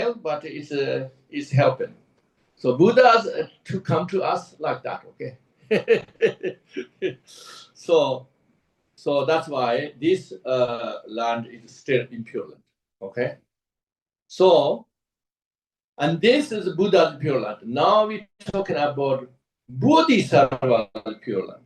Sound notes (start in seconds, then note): 5.7 laughs